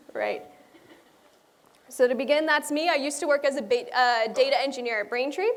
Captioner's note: laughter